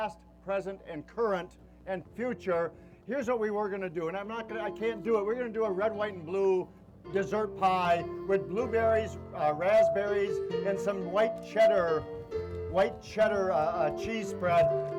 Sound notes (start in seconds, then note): none